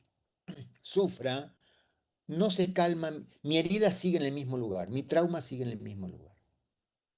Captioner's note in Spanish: carraspeo